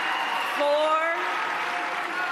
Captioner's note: applause